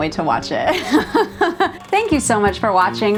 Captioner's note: laughing